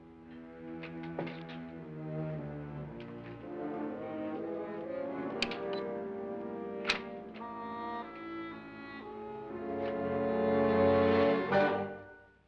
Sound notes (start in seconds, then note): 0.0 suspenseful music; 5.3 lock clicks & door opens; 7.6 suspenseful music